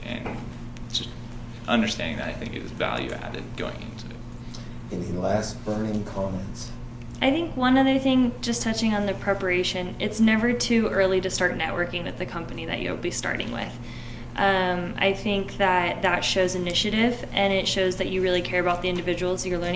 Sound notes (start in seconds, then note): none